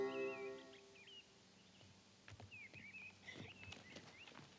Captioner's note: birds chirping